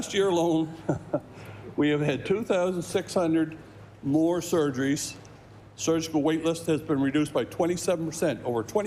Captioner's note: laughter